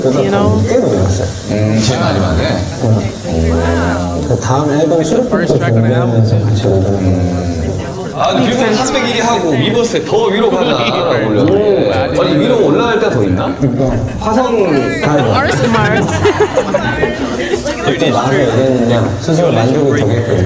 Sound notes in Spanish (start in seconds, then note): 14.8 Ja ja ja